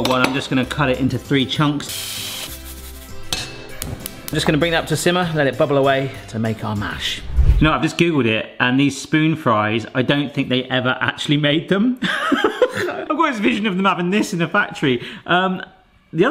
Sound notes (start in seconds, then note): 2.3 jaunty music; 12.6 laughs